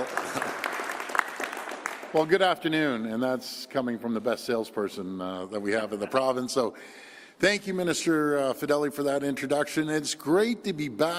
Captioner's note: applause